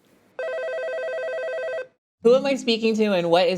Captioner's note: phone ringing